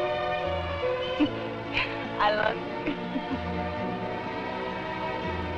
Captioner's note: giggling